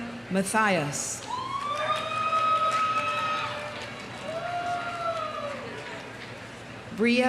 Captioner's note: audience cheering; audience applauding